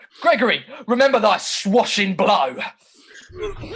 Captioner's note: fighting sounds